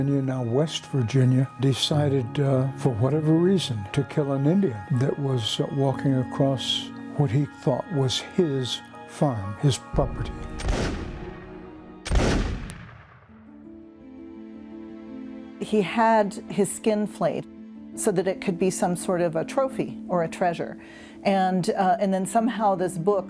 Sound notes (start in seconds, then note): 10.3 gunshots